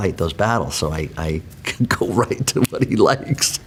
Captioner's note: laughs